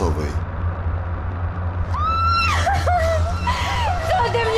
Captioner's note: screams